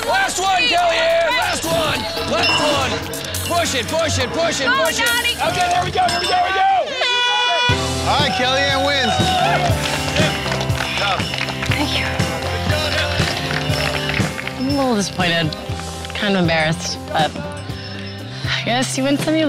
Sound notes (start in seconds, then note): 7.1 air horn blows; 9.6 contestants clapping